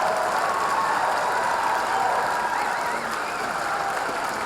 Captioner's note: audience cheering